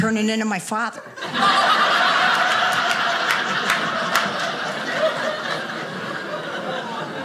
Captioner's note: audience laughing